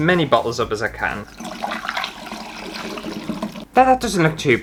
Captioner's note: wine Pouring